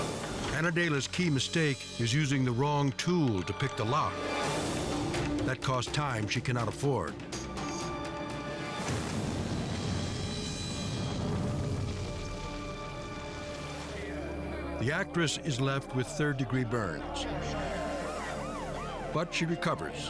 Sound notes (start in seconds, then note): 8.9 explosion booms; 16.9 siren blaring